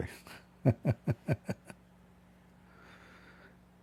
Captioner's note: Ketawa